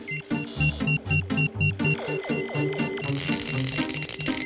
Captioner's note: laboratory machinery beeps; dramatic music; electricity crackles; dramatic music